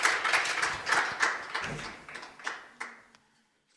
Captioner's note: applause